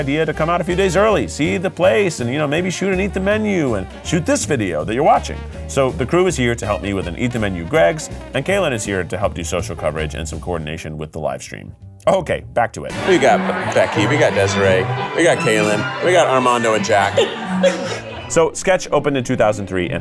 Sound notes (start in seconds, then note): 17.7 laughs; 19.3 gentle music